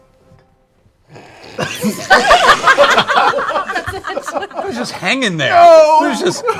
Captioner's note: laughter